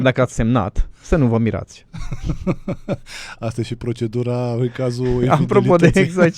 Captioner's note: laughter